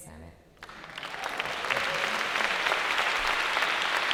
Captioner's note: applause